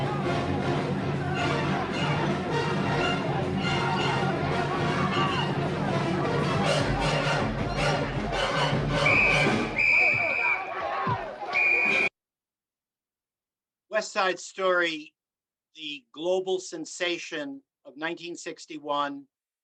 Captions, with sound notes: (tense orchestral music continues) (whistle blowing) (boys yelling) "West Side Story," the global sensation of 1961,